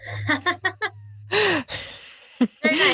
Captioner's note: laughs